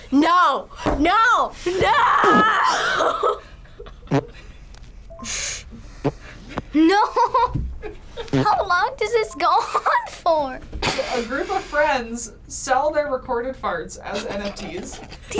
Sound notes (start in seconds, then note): 1.8 laughs; 2.5 laughing silently; 2.7 chuckles; 4.0 fart noises; 14.1 snickers